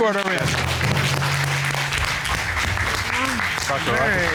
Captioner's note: cheers and applause